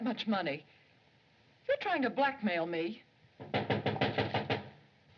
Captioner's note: knocking